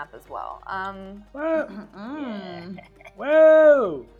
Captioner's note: laughing